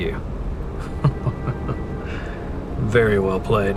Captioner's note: laughing